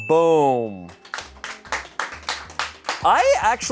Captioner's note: bell dings; audience applauding